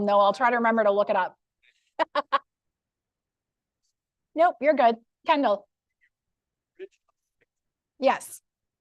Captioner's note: laughter